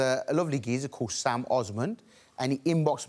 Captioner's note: none